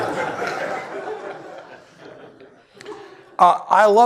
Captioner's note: laughter